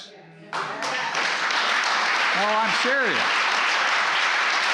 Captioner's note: applause